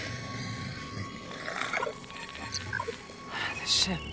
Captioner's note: beeping